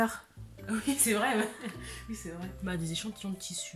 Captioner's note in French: rires